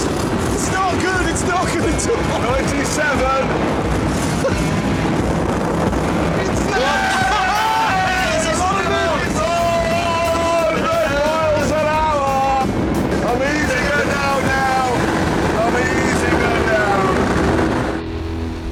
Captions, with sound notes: It's not good. It's not good at all.. - ..97... (ALL CHEER AND SHOUT) 100mph. I'm easing her down now. I'm easing her down.